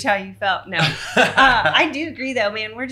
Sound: laughing

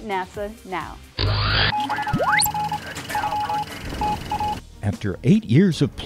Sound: sound Effects

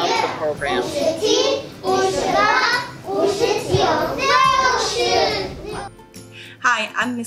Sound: students speaking Mandarin Chinese

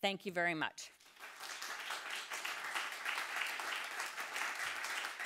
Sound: audience clapping

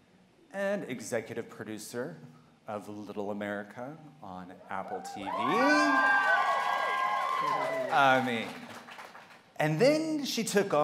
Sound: cheers

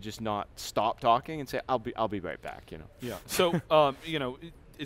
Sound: laughs

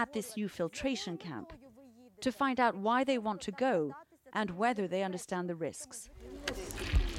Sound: speaking foreign language

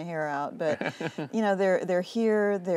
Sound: laughter

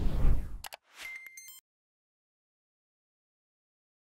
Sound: logo whooshing

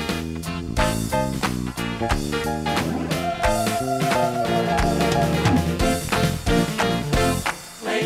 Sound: clapping

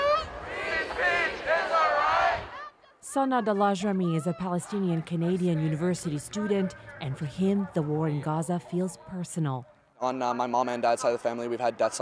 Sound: chanting

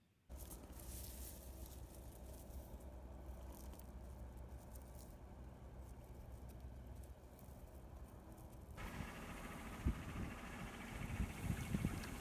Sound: tractor sounds

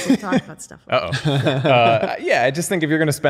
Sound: laughter

